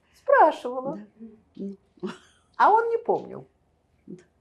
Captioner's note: laughing